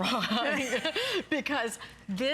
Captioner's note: laughter